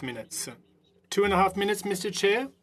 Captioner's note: speaking French